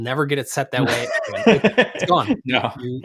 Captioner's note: laughs